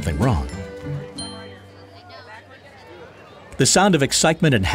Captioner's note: murmuring